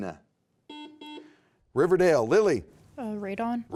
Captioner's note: buzzer beeping